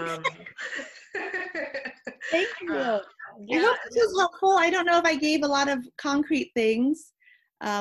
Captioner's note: laughs